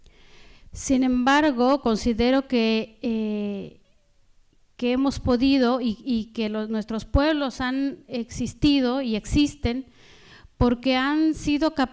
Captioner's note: speaking spanish